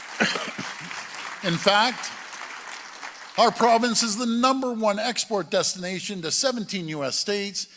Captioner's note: applause